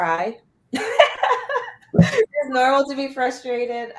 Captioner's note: laughter